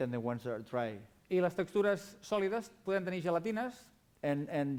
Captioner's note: non-english speech